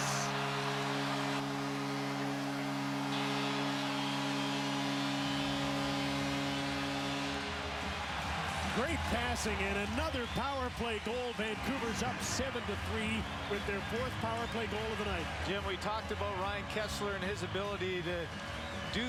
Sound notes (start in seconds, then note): 11.3 cheers and applause